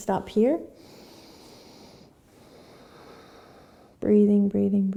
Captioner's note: breathing